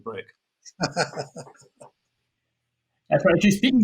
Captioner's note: laughs